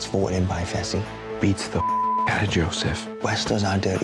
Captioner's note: beep